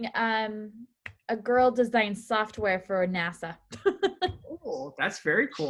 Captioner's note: chuckles